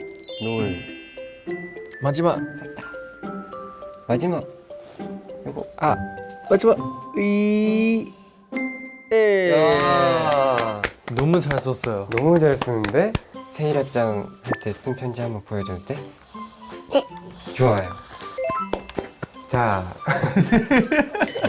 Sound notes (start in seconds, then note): 9.3 cheering for the young lady